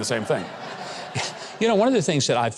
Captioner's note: audience laughs